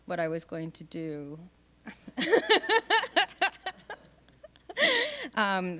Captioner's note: laughing